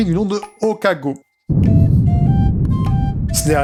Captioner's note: explosion in an far distance